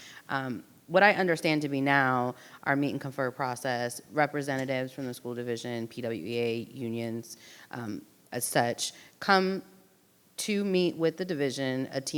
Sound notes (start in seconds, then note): none